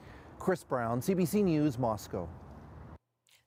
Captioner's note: none